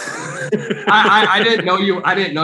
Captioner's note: Alex laughs